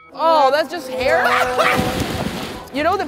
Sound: laughing

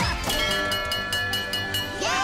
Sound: dinging

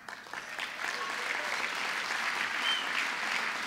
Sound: applause

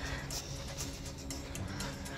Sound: sniffing

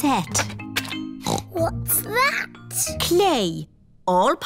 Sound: snorts

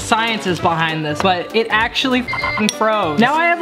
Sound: beep

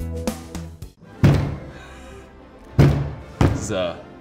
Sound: cheese brick thumping

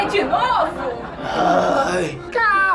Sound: groaning

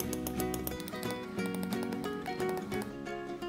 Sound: bang-bang-bang-bang

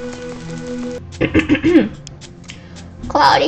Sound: clears throat

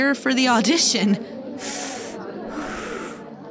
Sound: Fenghua taking deep breaths

